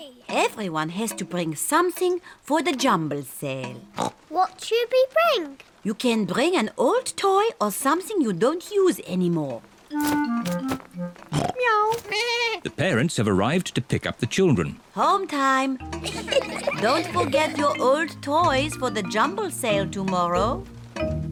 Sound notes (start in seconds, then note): 3.9 oinks; 11.3 all makes animal sounds; 16.0 children giggling